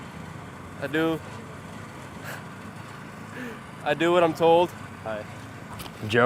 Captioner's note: chuckles